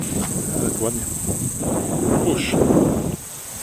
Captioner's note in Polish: słychać australijskie świerszcze